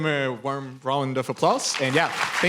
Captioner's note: applause